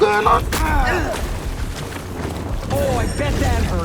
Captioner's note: grunting